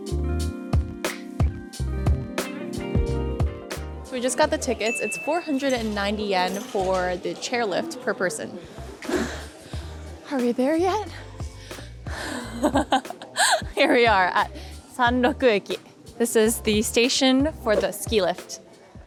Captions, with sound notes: We just got the tickets. It's 490 Yen for the chairlift per person. Are we there yet? (laughing) Here we are at Sanroku Eki. This is the station for the chair lift.